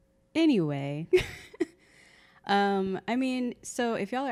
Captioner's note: laughing